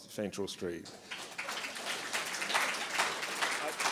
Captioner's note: applause